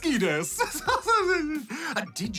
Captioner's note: laughs